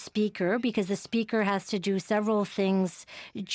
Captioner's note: speaking French